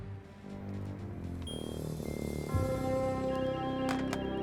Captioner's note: beeping